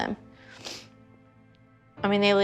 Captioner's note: sniffles